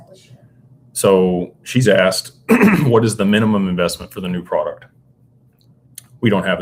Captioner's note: clears throat